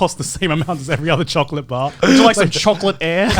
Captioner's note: laughs